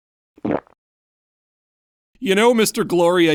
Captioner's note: gulp